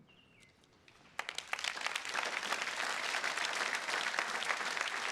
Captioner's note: attendees clapping